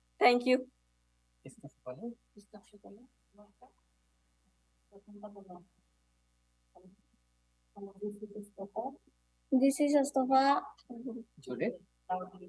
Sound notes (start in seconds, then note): 1.6 speaker speaking in foreign language